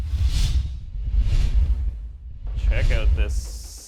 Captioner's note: air whooshing